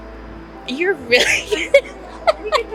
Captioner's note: laughs